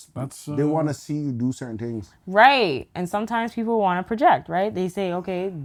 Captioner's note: none